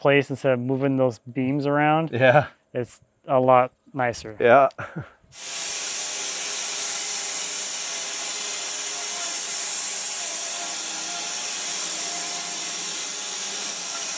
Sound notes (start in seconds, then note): 4.7 chuckling; 5.3 saw whirring